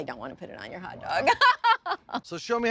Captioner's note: chuckling